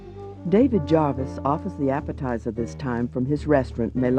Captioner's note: voiceover